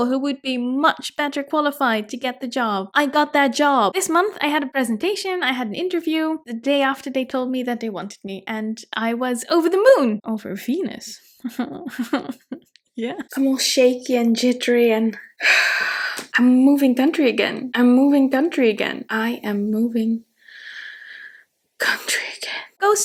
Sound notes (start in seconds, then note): 11.4 chuckles; 15.9 sighs